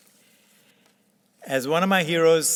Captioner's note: papers rustling